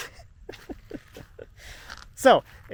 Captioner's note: laughing